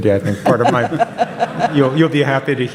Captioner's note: audience laughs